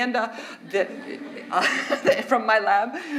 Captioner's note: audience laughs